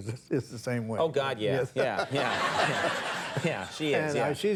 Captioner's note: audience laughing